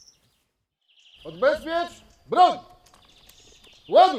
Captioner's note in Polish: odgłosy lasu